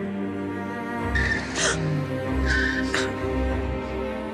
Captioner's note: Sonali gasping; Tires screeching